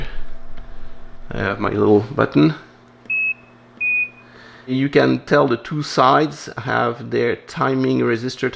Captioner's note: high beep, low beep